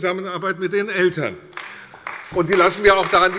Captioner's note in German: Beifall bei der CDU und dem BÜNDNIS 90/DIE GRÜNEN